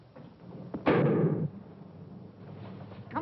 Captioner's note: gunshot